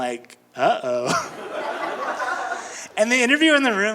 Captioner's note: audience laughing